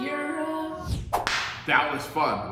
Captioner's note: whip lash